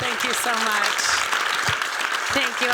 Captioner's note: applause